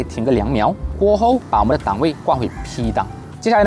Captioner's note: the car continues to start